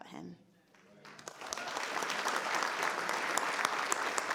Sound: all clapping

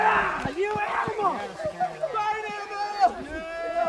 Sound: cheering

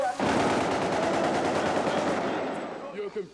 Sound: guns firing

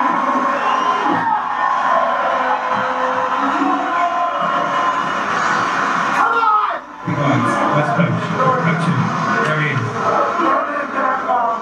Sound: applause

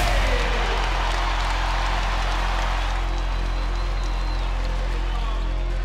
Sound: audience cheers and applause

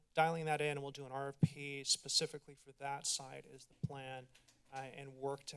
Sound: clicking sound

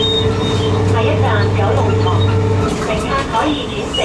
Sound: Cantonese

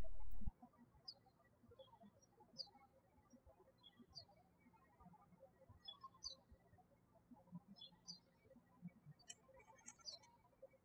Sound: birds chirping

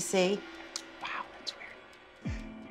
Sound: quietly

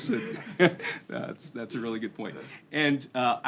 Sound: laughter

